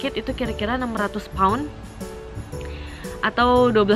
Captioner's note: deep breath